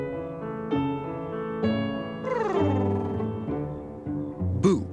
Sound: cat purring

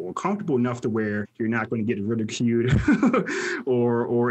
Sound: laughs

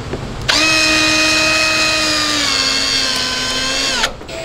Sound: power drill runs

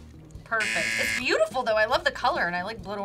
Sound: buzzer rings

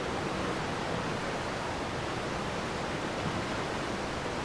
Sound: water rushing

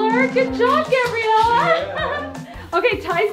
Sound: laughs

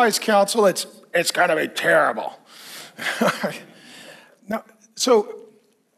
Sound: laughs

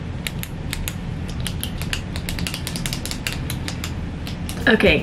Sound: click; clicking faster

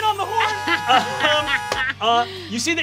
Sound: laughing; horn honking

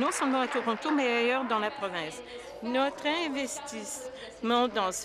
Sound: applause

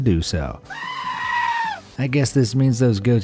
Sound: goat bleats

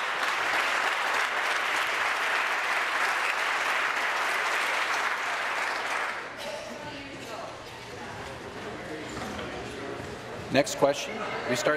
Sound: applause

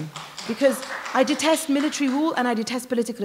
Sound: applause

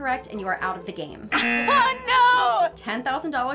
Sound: buzzer

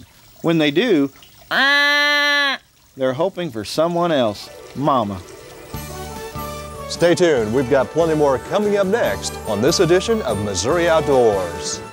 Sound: fawn bleat

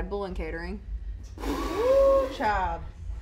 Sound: blows raspberry

